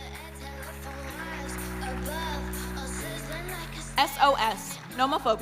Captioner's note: audience applauding